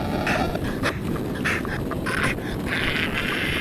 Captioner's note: groaning